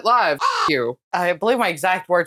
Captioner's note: caw